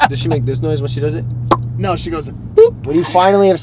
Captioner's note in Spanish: Pop